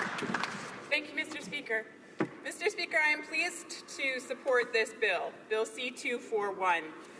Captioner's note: applause